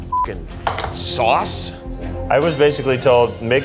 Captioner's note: beeps